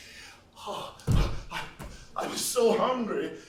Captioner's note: panting